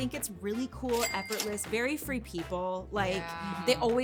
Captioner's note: cash register chiming